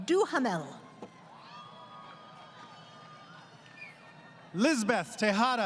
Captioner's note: crowd Cheering